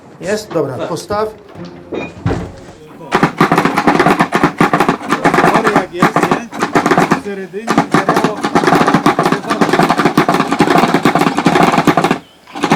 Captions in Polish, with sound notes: Jest? Dobra. Postaw. [głośny stukot]